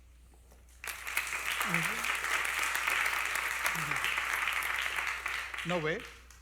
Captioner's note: applause